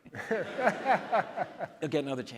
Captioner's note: audience laughs